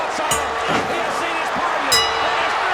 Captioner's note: bell rings